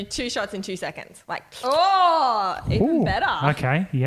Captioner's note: slurping